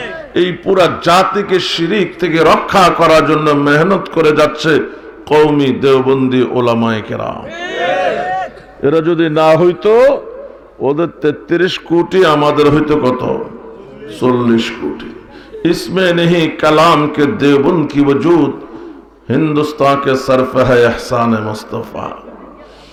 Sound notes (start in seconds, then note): 16.7 Urdu poetry